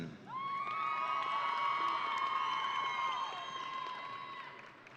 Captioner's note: audience cheering